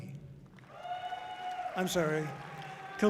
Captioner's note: audience cheering loudly